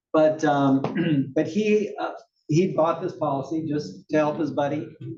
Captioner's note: cough